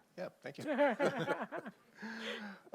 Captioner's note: laughter